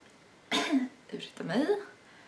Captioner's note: coughs